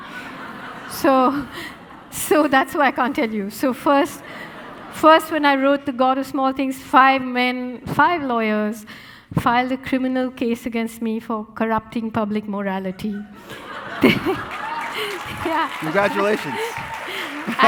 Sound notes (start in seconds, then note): 0.0 audience laughing; 4.0 audience laughing; 13.4 audience laughing and applauding